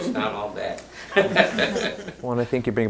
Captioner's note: laughs